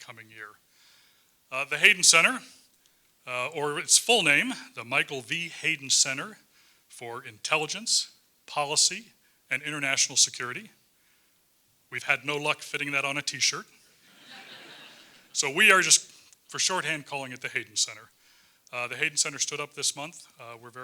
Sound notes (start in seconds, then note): 14.1 laugh